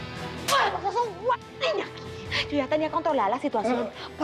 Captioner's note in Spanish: bofetada